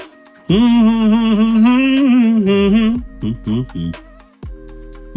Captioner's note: humming